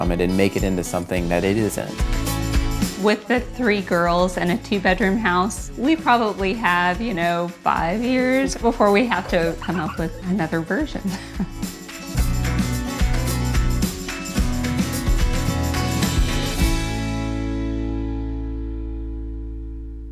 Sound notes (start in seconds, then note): 9.1 laughs; 11.8 upbeat country music